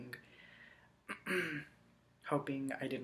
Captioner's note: clears throat